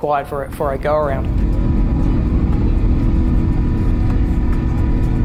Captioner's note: engine sound